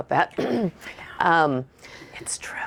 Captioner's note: clears throat